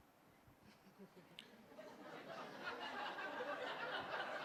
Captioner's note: laughter